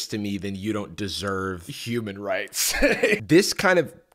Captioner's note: laughs